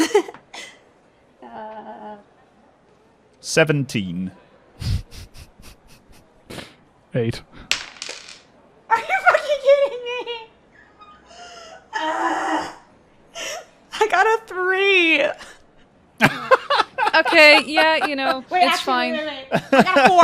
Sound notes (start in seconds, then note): 0.0 laughs; 4.8 laughing; 4.8 chuckles; 11.9 screams; 16.2 laughter